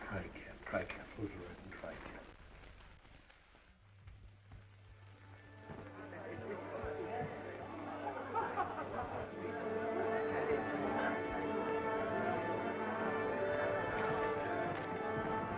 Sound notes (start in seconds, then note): 4.7 gentle music; 5.6 attendees chattering